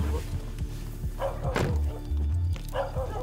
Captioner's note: barking